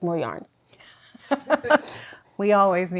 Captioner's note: laughs